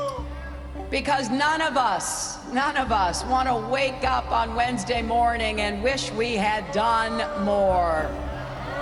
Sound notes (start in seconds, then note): 6.5 crowd jeering